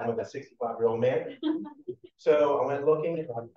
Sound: chuckling

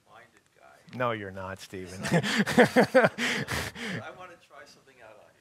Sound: laughing

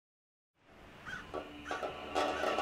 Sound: wind whirring; crow cawing; country music

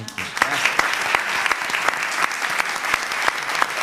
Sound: applause

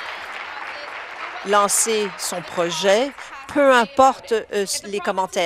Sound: applause

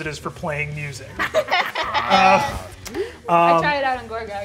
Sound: all laughing

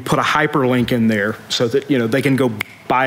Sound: snaps fingers

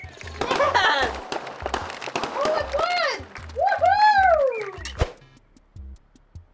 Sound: fireworks popping

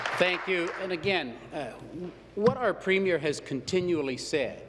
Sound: applause

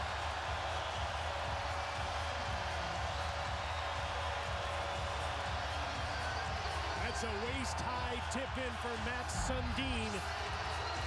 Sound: cheers and applause

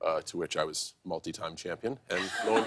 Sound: laughter

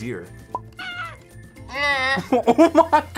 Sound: bleats; laughs

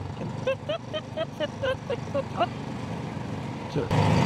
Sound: both laughing

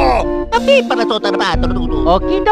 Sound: italian Gibberish

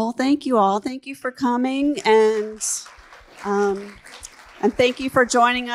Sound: audience clapping

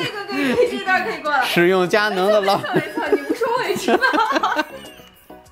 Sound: laughing

